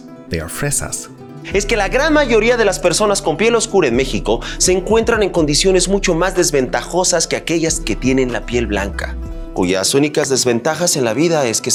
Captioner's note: Tenoch Huerta speaking in Spanish